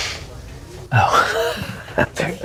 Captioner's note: laughter